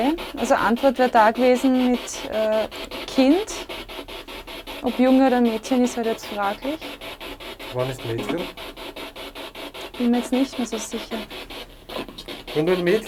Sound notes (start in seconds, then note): none